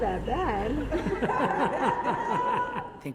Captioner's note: all laughing